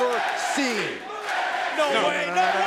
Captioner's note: crowd cheering